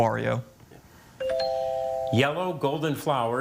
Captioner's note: tone chimes